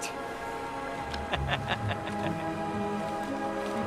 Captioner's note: laughs